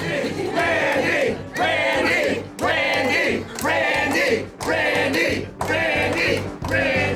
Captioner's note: crowd